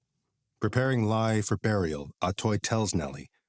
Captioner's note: none